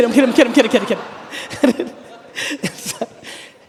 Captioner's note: audience laughing; laughing